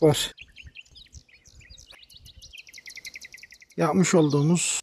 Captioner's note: bird sounds